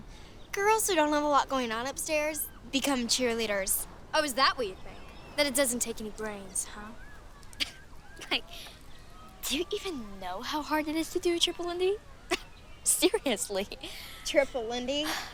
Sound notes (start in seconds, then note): 7.4 scoffs